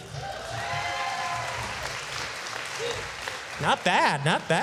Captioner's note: applause